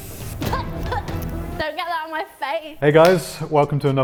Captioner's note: tense music; coughs